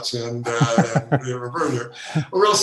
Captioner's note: laughing